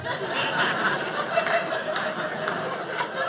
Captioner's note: audience laughing